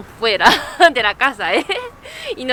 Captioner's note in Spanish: risas